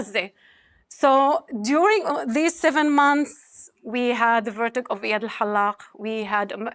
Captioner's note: speaking hebrew